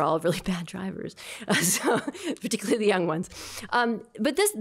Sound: laughter

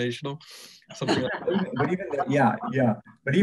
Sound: laughs

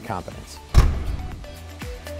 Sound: upbeat music; door closing

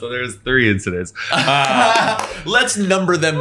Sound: laughing

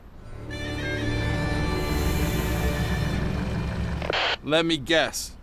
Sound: hissing

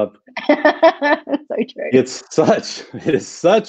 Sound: laughs

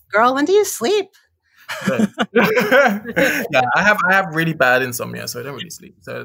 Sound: laughs

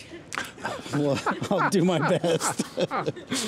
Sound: laughing

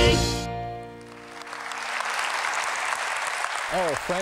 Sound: applause

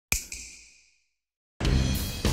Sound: snap

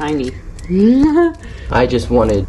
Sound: chuckles

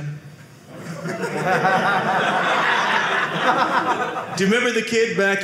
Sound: audience laughing

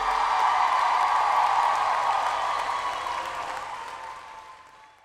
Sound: audience applauds

